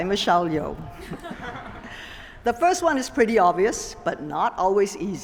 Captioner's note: laughter